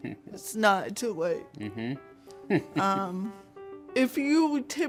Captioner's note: chuckles; hums agreement and chuckles